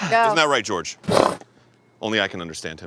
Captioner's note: horse bluster